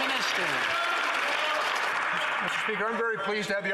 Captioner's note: some Applause